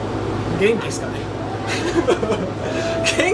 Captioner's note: laughs